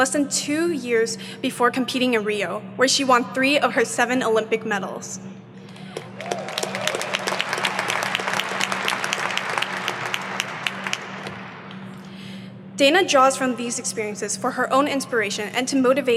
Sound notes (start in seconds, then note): 5.7 audience applauding